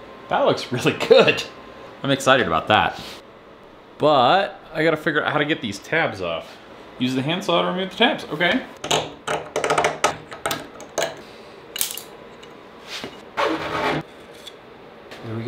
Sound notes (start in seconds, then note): 9.6 metal crackles; 13.5 saw crackles